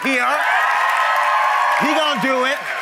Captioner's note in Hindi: भीड़ द्वारा जय जयकार करते हुए; ताली